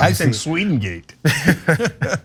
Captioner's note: laugh